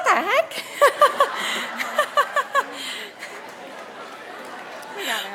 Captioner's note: audience laughs